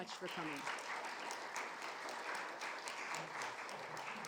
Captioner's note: audience clapping